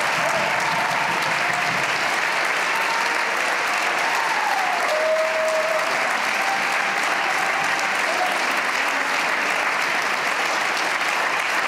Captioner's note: cheers and applause